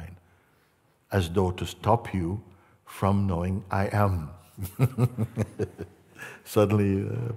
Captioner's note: Mooji lacht